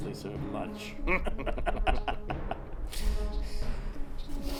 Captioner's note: laughing